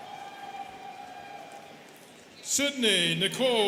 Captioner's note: students cheering